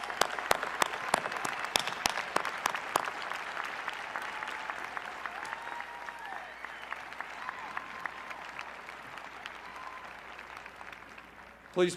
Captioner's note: cheers and applause